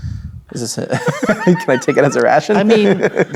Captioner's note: laughs